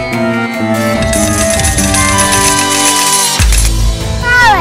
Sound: coins sound

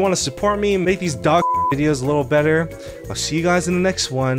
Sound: beep

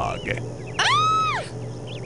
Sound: woman freaking out

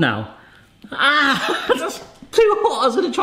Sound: laughs

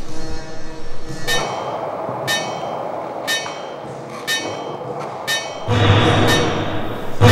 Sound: clanging

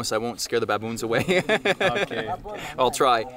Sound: laughing

